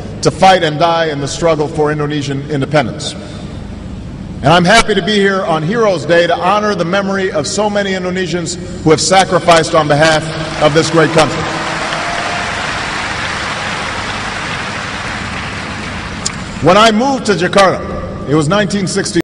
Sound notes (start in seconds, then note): 10.3 cheering